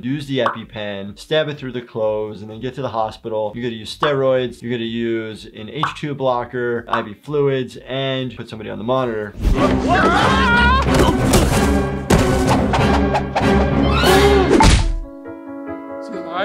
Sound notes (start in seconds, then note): 9.4 intense music; 9.6 bears shrieking; 10.8 bodies thud; 14.0 gasps; 14.6 mallet thuds